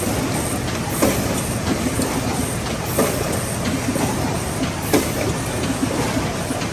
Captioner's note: machine continues ratcheting and whirring